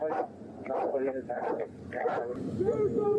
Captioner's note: radio chatter